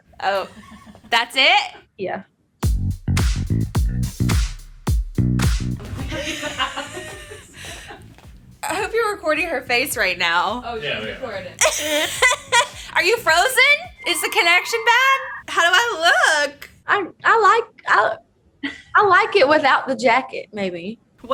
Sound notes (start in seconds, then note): 2.9 upbeat music; 6.0 laughs; 11.6 laughing